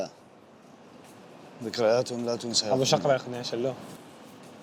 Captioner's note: in Arabic